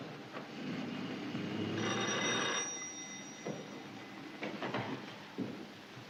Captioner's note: door Bell